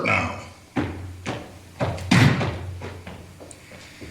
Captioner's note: footsteps